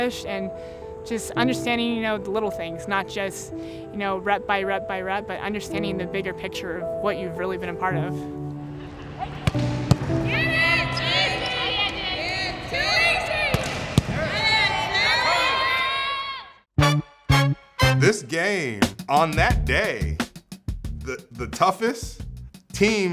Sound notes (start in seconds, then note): 10.3 team cheering; 16.7 upbeat tune